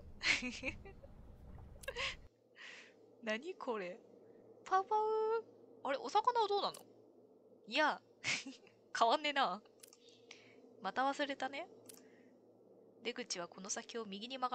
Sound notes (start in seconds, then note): 4.1 laughs